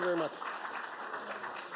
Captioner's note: applause